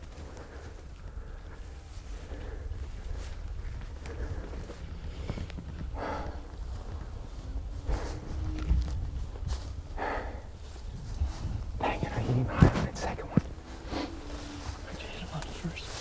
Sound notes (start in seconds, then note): 0.1 heavy breathing